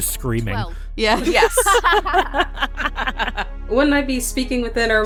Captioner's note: laughs